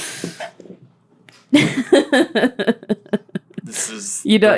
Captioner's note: more gleeful laughter